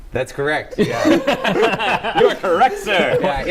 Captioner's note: laughter